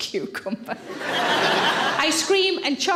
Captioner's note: audience laughing